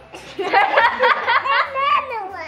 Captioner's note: all laughing